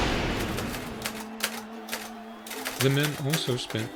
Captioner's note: shotgun fires; typewriter keys clanking